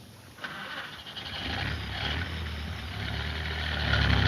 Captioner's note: car engine starts; car engine revs